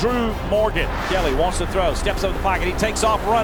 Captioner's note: voiceover